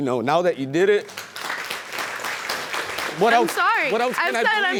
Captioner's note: audience clapping